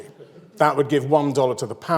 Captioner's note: audience laughs